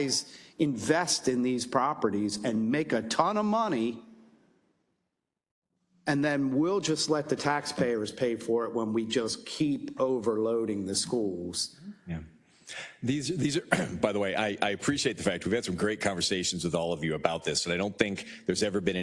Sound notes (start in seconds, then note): 13.6 cough